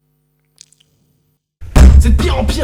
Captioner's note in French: Bruit de bouche bien dégueu